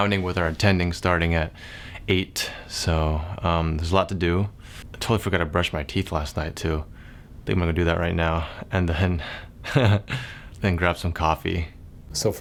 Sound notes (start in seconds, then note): 9.7 chuckles